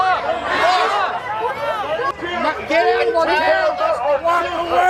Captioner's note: crowd shouting